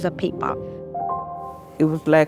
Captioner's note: soundbite of archived recording